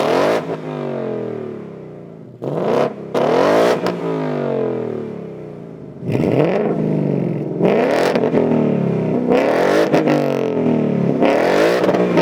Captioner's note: engine Revs